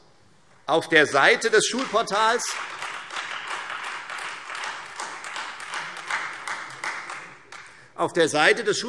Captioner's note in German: Beifall Freie Demokraten